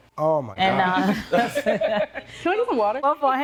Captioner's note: laughing